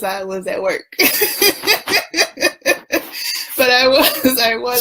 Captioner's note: laughs